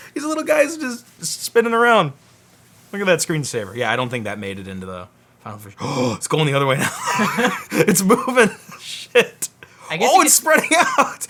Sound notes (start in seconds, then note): 5.8 gasps; 6.7 laughs